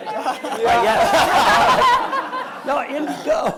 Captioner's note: everyone laughs